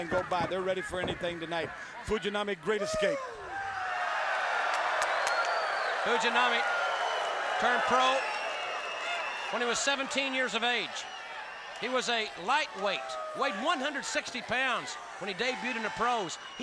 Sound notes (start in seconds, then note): 5.2 crowd cheering